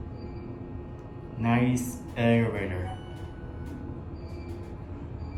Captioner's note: floor Passing Chime